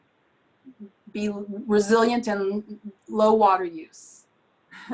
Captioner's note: chuckles